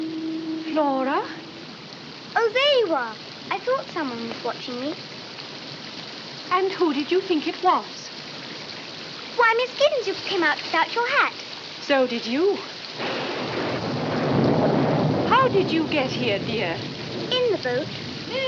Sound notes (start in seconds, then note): 12.9 thunderclap